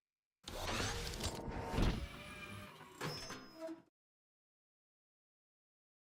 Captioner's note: mechanical gears turning